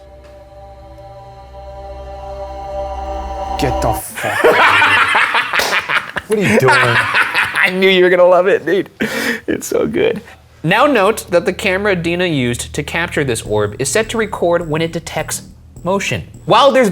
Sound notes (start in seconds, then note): 0.0 tense foreboding music; 4.1 laughing; 5.3 claps hands